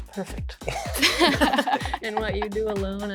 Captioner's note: band members laugh